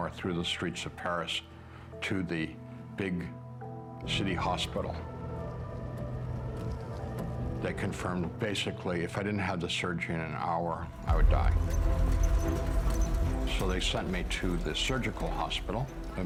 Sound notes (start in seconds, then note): 5.7 emergency sirens; 11.6 squeaky wheel